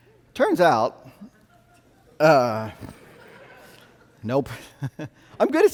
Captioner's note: audience laughing